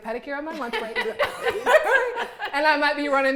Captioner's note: all laughing